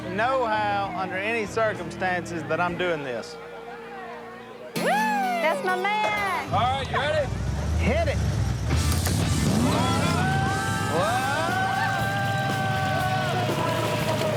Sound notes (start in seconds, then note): 8.8 engine revving